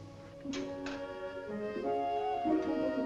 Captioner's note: gate opens